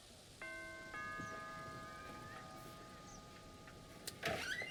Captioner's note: doorbell ringing